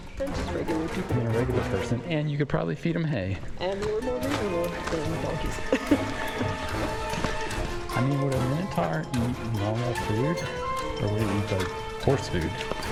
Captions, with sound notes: Than just regular people ... than a regular person, and you could probably feed them hay. And they were more manageable than the donkeys. [laughs] I mean, would a Minotaur eat normal food, or would it eat like horse food?